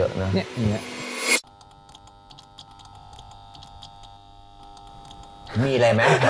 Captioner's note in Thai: เสียงไฟติดๆ ดับๆ